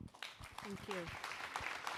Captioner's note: applause